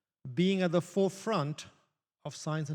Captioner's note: none